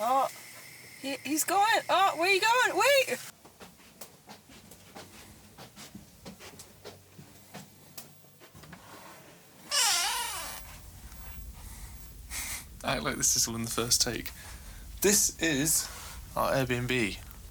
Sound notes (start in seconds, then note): 9.6 door creak; 11.3 fire crackling